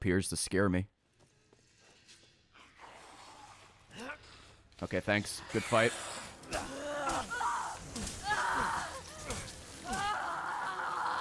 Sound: screams

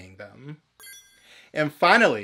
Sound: bling

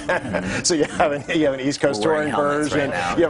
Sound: laughter

